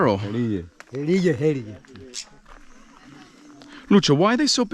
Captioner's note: speaking in foreign language